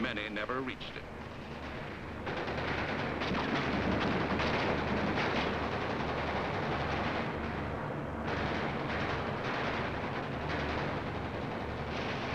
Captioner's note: sounds of explosions